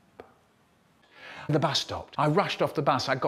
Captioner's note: gasp